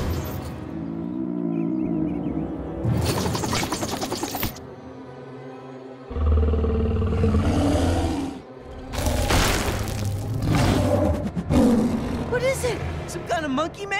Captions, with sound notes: [growling] [growling] [growling] What is it? Some kind of monkey man?